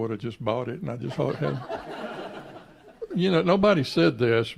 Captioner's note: laughs